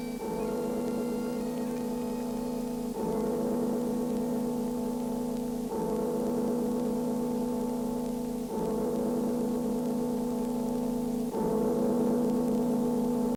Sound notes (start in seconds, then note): 0.0 bell tolls